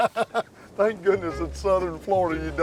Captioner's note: laughter